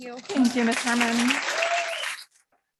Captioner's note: audience clapping